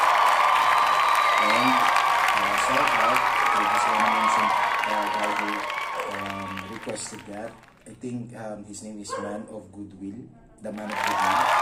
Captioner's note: applause